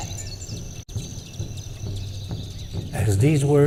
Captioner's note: birds chirping